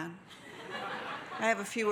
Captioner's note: audience laughing